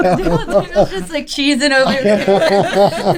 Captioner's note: laughter